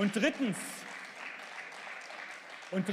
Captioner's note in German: Beifall